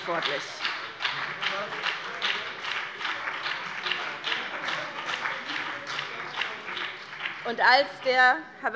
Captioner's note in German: Beifall BÜNDNIS 90/DIE GRÜNEN